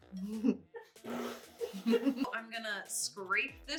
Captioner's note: chuckling